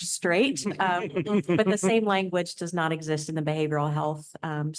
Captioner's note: laughter